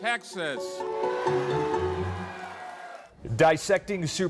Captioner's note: crowd cheering